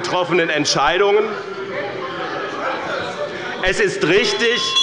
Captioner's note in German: Unruhe – Glockenzeichen des Präsidenten